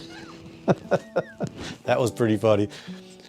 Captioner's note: laughing